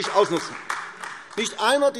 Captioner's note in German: Beifall AfD